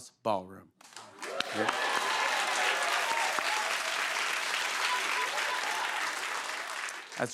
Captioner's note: cheers and applause